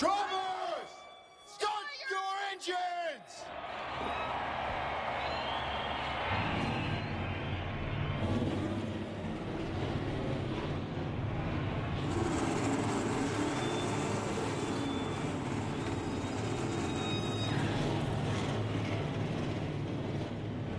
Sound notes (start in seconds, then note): 6.8 engines roar